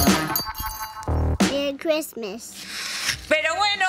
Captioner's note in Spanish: voz de niña